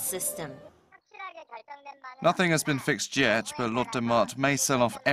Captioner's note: korean